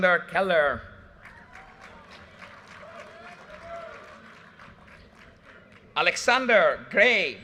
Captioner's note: audience cheers and applause